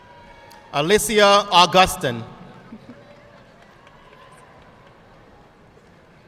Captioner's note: audience faintly cheering